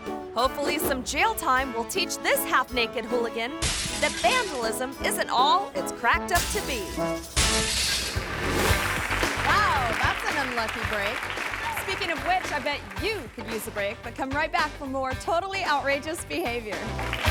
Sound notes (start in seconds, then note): 0.0 playful music; 7.3 glass shatters; 8.7 hands clapping; 16.7 hands clapping; 17.1 audience cheering